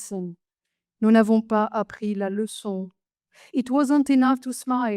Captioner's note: speaks French